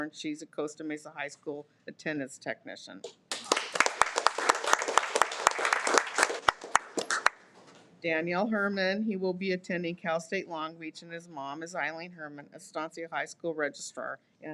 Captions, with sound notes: and she's a Costa Mesa High School attendance technician. (audience applauding) Daniel Herman, he will be attending Cal State Long Beach and his mom is Eileen Herman, Estancia high school registrar.